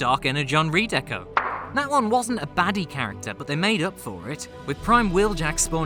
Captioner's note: pop!